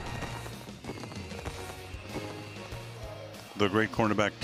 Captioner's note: fireworks blasting